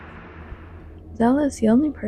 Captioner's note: ambient hum